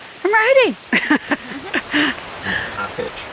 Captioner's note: laughing